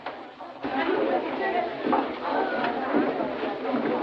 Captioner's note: chattering